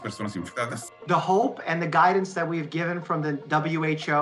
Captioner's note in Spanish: hablando en inglés